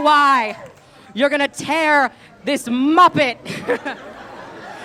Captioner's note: laugh